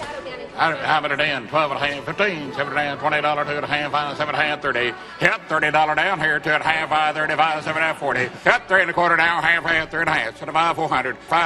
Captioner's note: Rep. Billy Long auctioneering